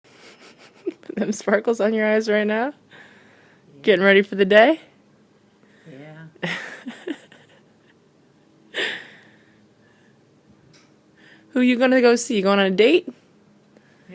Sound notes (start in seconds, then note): 6.4 laughter off camera